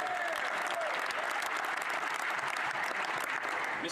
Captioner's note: speaking French